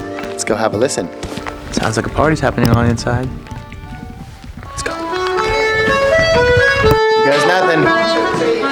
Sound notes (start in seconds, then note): 3.8 whispers